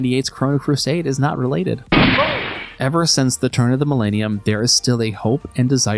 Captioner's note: gunshot